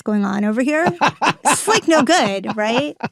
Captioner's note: Baratunde laughing